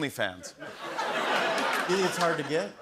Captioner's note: laughter